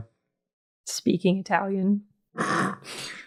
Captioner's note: speaking Italian